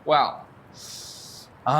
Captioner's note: anxious inhale